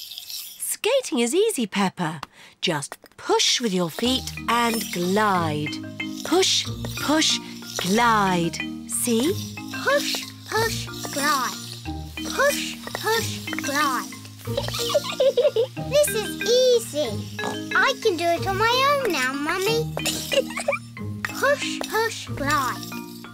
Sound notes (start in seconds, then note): 14.4 giggles; 17.3 snorts; 20.0 giggles